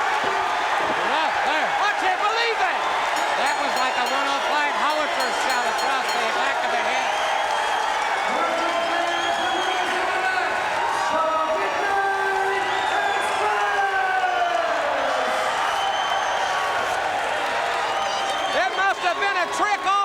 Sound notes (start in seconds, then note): 2.7 bell ringing; 14.3 crowd cheering